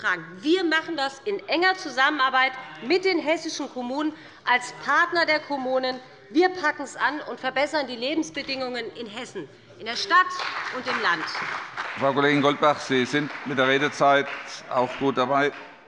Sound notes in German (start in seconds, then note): 10.2 Beifall bei dem BÜNDNIS 90/DIE GRÜNEN und der CDU